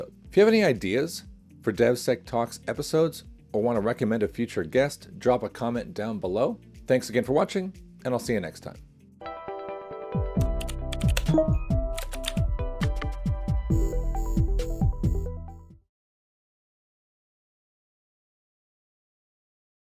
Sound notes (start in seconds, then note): 9.2 gentle upbeat music; 9.2 keyboard clacking